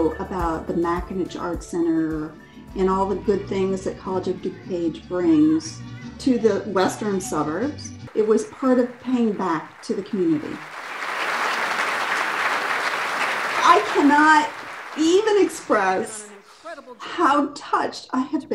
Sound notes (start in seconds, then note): 10.8 audience clapping